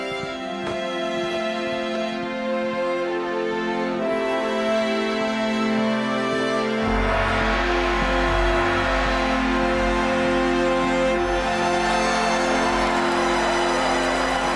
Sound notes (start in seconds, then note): 6.8 banging; 12.1 cheering